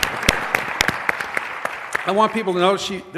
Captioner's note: applause